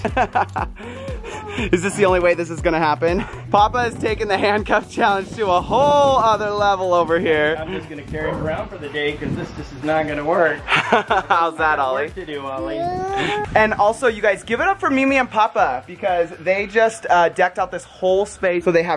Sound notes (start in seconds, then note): 0.0 laughter; 10.6 laughter